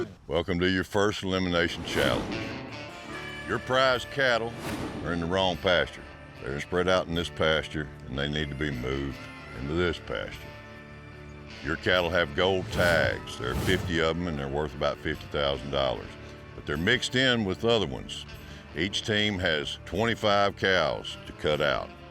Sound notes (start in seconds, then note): none